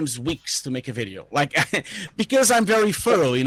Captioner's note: laughing